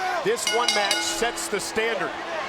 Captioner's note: bell rings